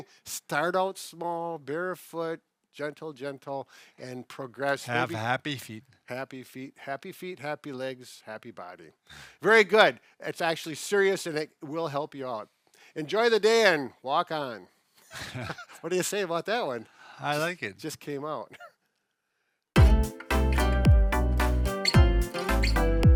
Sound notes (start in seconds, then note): 15.1 both chuckling; 19.7 upbeat guitar music